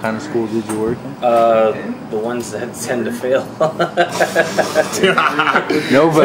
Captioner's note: laughing